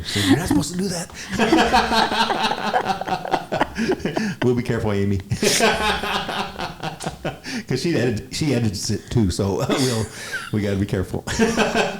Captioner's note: laughs; laughs